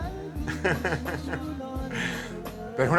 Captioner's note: laughs